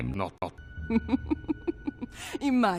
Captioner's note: Miraj laughing